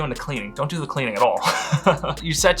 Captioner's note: laughs